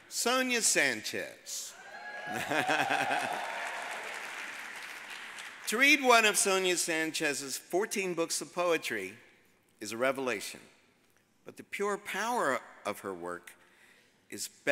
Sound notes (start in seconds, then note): 1.7 audience cheers; 2.3 chuckles